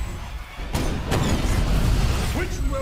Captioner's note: gunfire